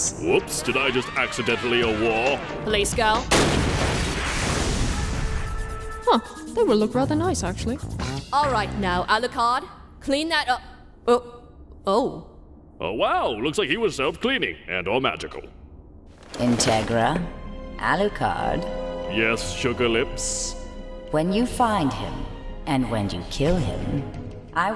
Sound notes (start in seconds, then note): 3.2 boom; 3.8 shatter